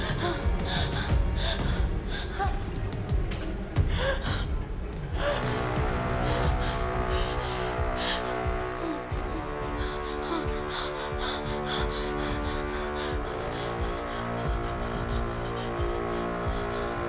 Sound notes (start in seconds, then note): 10.9 panting heavily